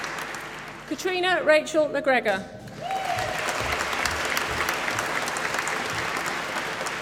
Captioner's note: applause